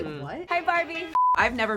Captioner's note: screen beeps